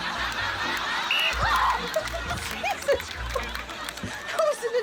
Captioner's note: blows whistle